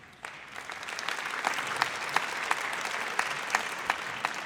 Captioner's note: audience applauds